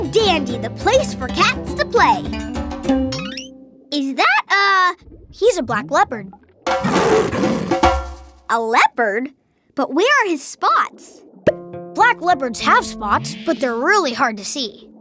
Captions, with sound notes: The place for cats to play. Is that a... He's a Black Leopard. [roaring] A leopard? But where are his spots? Black leopards have spots, but they're really hard to see.